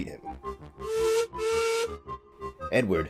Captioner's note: sickly Whistle